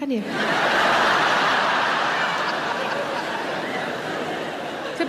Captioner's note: audience laughing loudly